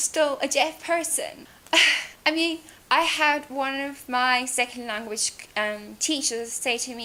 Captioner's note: sighs